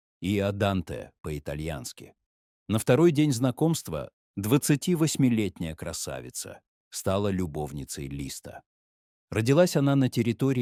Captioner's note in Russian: по-французски; по-итальянски